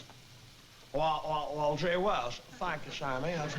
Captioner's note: impersonating jimmy stewart